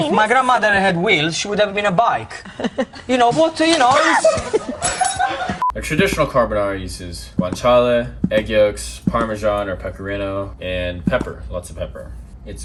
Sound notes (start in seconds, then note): 3.9 laughter